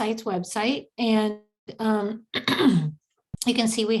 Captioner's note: lady clearing throat